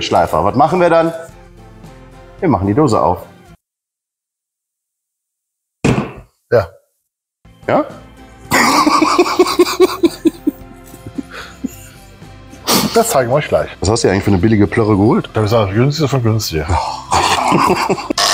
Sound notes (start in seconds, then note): 3.7 silence; 8.5 laughing; 17.0 laughing